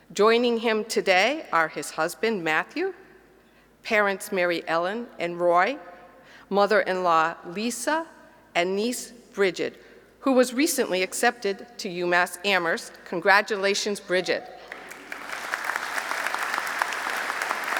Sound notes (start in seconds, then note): 14.6 applause